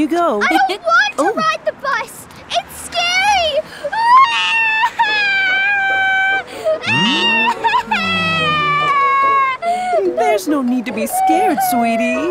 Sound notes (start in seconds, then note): 4.0 cries; 8.7 crying